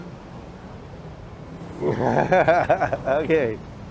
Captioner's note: laughs